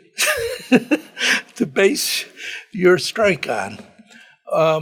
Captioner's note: laughs